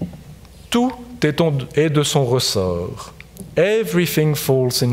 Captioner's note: speaking in French